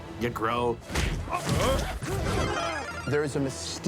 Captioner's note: power-Up sound